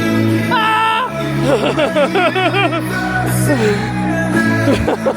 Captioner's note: music blasts; shouts